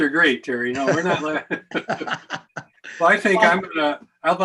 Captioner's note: laughing